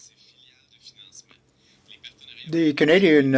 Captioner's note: speaking French